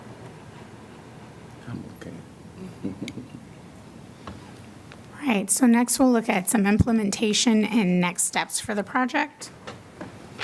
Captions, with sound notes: I'm okay. [LAUGHTER]. Right. So next we'll look at some implementation and next steps for the project.